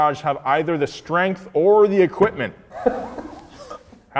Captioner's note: laughing